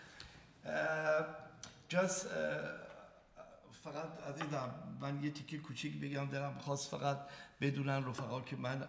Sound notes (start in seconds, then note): 1.9 speaking in farsi